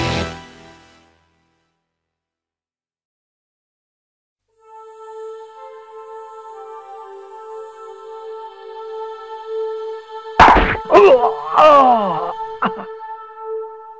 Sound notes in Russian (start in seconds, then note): 10.4 Хруст; 10.7 Стоны